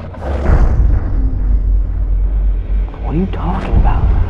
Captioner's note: demonic growls